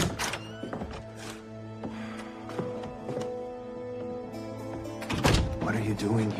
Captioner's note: sighs